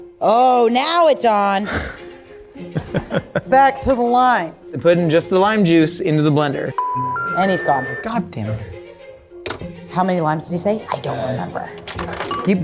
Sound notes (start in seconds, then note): 2.7 laughs; 6.8 line beeps